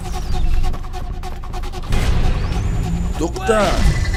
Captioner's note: photon gun charges up to fire